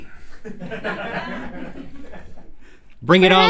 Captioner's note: laughs